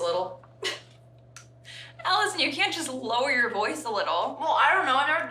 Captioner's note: laughs